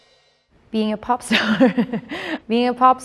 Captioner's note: laughs